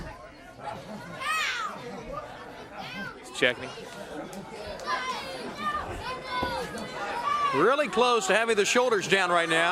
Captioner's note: crowd chatter